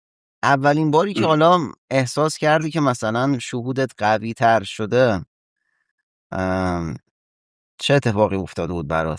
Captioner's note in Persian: گلویش را صاف می‌کند